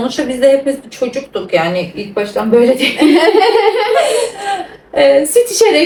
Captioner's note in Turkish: kahkaha